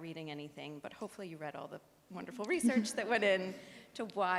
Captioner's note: audience laughs